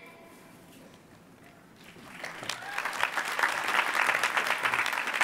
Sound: applause

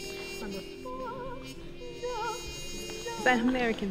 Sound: hums

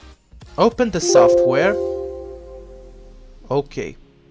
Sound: Windows 10 Background Sound

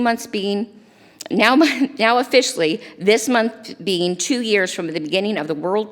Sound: chuckles

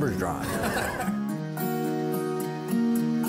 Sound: chuckles; ambient music

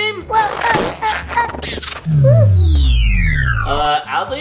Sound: power down effect

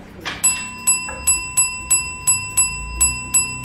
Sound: bell dinging

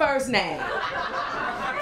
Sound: laughter

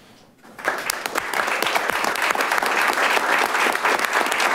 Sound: audience applauding

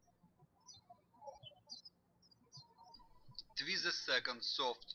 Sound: birds chirping

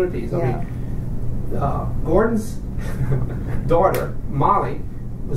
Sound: coughs; laughs

